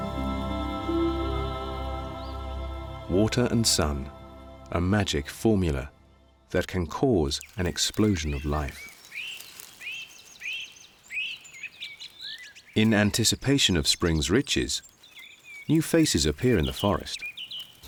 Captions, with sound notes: Water and sun, a magic formula that can cause an explosion of life. [birds calling] In anticipation of spring's riches, new faces appear in the forest.